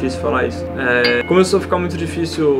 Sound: ding!

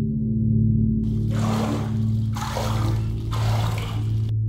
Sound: splash

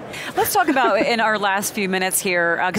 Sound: giggles

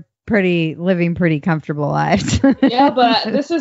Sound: laughs

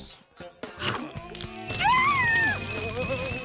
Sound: screaming

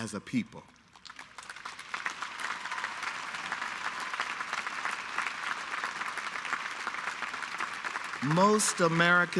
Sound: applause

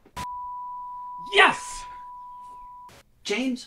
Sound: television beeping

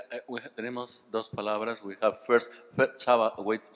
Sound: speaking spanish

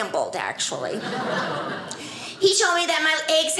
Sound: audience laughing

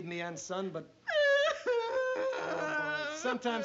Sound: aunt sophie crying

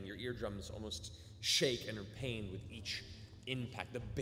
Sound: none

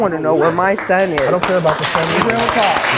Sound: audience applause

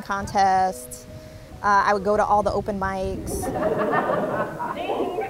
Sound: audience laughing

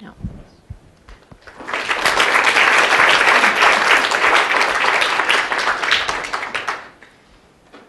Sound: applause

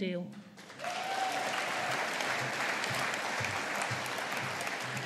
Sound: audience applauding

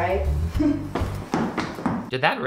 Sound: Prue stomping

